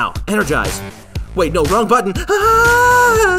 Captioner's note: screams